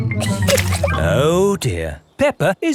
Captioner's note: chuckles